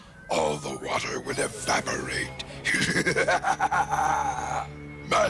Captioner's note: laughs